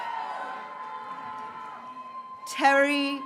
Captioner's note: graduates cheering